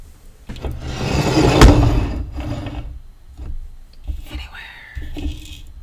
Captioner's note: Eiffel Tower being put down forcefully; globe scraping across the desk